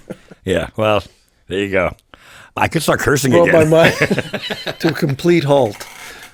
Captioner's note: laughs